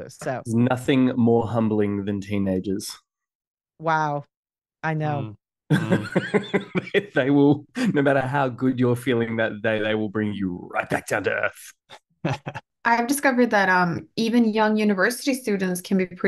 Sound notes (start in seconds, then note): 5.7 laughs; 12.2 chuckles